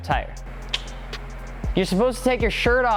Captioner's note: clicking noise